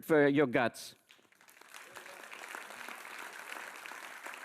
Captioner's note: audience applauds